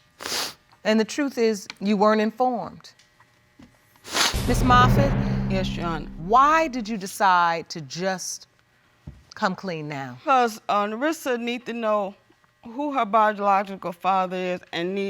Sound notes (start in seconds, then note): 0.1 sniffles